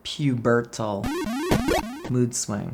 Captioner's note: game sounds